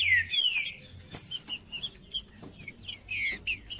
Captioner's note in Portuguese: trinca ferro cantando